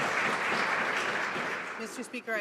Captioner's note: some Applause